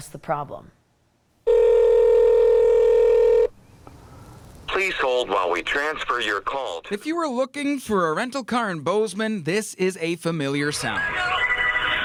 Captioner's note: ring*** “please hold while we transfer your call.”